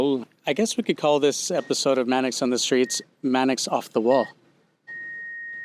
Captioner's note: EKG beeps